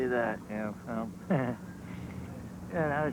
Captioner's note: laughs